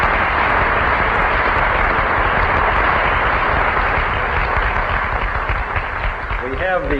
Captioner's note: clapping